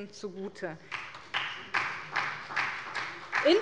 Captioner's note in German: Beifall bei der SPD